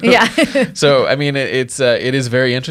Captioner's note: laughing